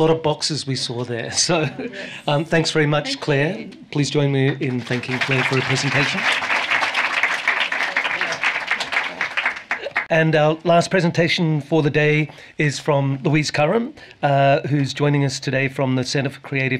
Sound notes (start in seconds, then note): 4.6 applause